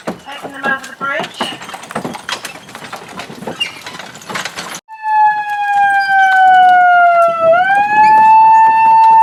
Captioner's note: siren